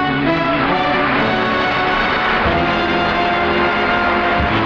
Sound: audience applauding

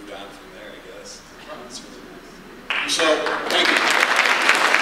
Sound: audience applause

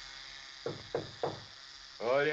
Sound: Knocking

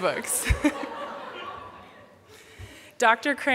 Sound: laughter

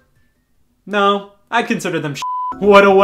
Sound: beep

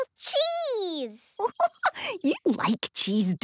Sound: giggling

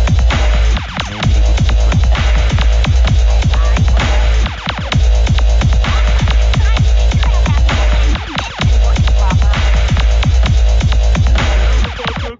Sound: talking in the backround

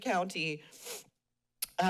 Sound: sniffles

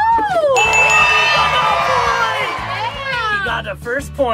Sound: buzzer ringing; everyone cheering

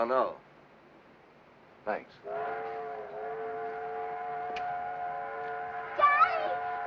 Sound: train whistle blows

